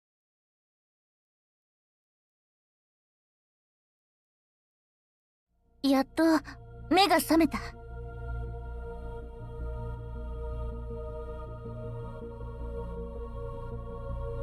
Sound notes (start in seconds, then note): none